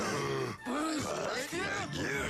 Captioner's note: gasps